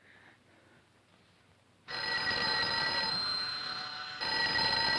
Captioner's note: phone buzzing